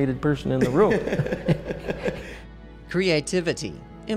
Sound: laughing

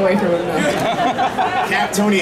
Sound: audience laughing

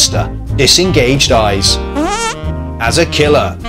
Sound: short fart from a tensed bottom

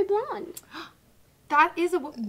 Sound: gasp

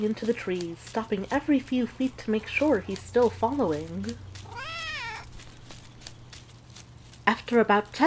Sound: cat meows impatiently

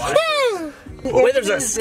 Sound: yelps

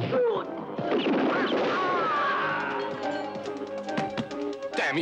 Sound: guns blasting; man yells

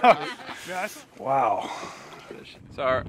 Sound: laughing

